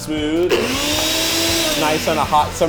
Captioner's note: blender running